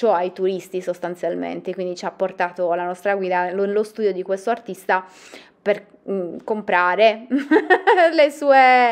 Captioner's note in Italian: Risata